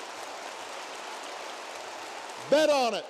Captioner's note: applause